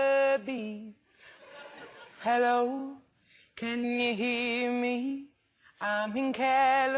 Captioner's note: laugh